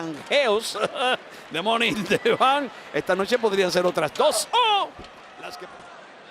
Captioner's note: laugh